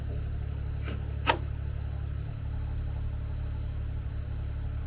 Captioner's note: board thuds